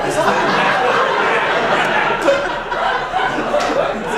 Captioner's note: laughing